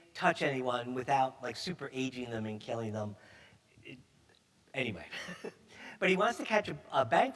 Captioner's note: chuckles